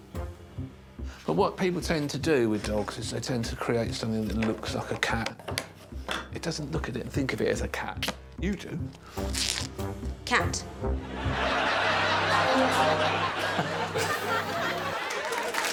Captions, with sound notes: Yeah. But what people tend to do with dogs is they tend to create something that looks like a cat. It doesn't look at it and think of it as a cat. -You do. -[tape tearing] -[whimsical music] -Cat. [audience laughing]